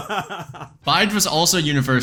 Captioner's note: both laugh